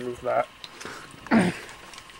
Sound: clears throat

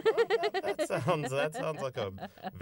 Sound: laughter

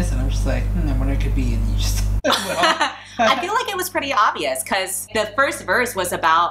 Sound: laughs

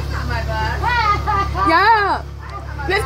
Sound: laughing

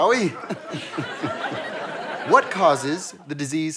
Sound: audience laughter

